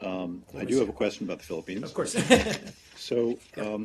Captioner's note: laughter